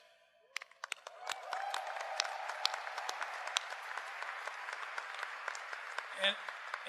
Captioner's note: applause